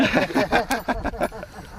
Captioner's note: laughter